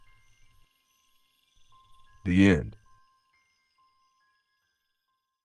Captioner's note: pause; pause